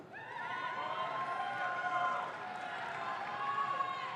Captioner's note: audience claps